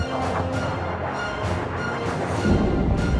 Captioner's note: rocket swishing through the air